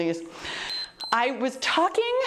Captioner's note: timer beeps